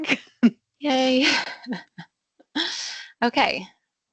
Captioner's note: laughs